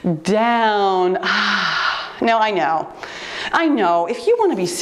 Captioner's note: sighs